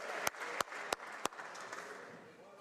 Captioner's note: applause